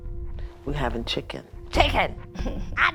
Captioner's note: laughs